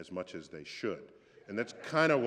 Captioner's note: laughter